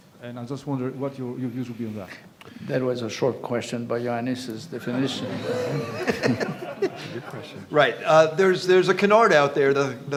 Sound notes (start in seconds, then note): 4.9 audience laughing